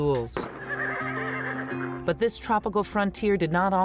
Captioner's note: gunshot echoing; horse neighing